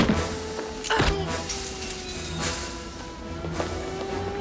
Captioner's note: alarm Continues